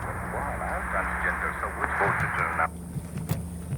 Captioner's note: foreign language